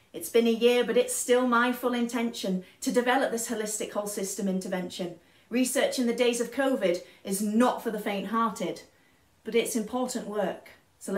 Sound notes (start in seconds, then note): none